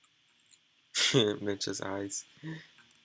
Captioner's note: giggles